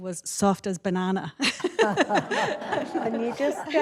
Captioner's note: laughter